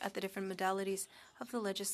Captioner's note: speaking French